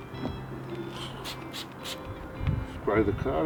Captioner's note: spraying noise